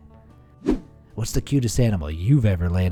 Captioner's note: air whooshing